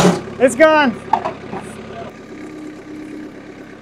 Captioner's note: wood clanking